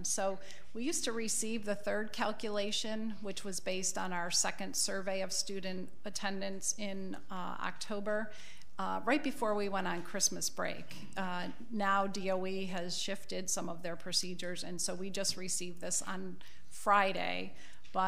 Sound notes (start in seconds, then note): none